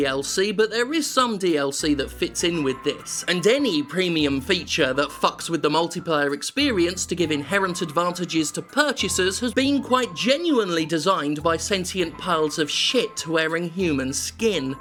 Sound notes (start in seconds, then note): none